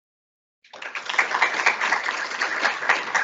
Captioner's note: applause